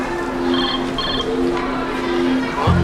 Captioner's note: cell ringing